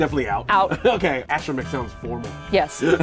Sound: chuckles

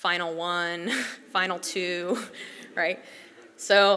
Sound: laugh

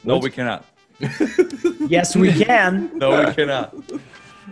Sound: laugh

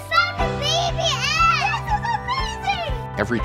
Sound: child yelling

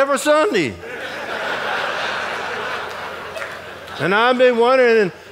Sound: audience laughing

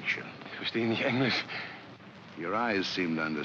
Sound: speaking in German

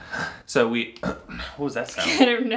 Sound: clears throat

